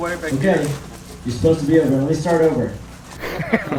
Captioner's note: laughs